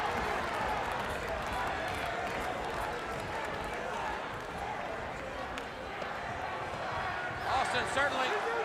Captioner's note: crowd chatter